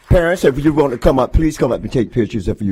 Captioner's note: applause